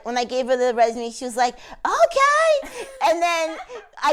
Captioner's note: laughs